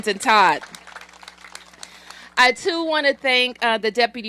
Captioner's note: applause